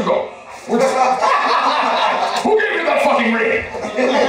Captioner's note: laughter; laughter